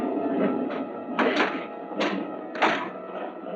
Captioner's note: door thudding